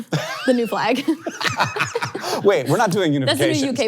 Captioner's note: all laughing